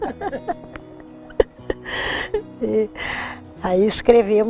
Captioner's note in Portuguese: risos